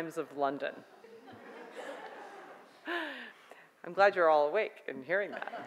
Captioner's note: audience laughs